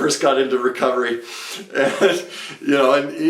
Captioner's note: speaker chuckles